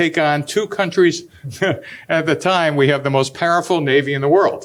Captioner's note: chuckles